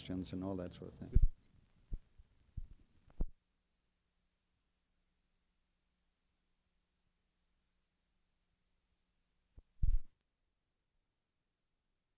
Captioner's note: silence